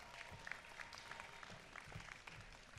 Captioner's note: applause